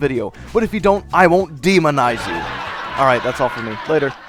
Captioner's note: laugh track